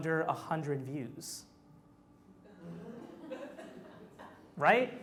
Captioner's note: audience laughs